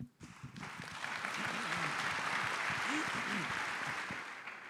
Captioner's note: audience applauding